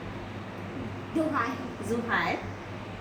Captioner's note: speaks